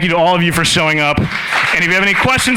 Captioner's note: applause